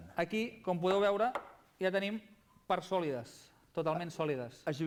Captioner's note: non-english speech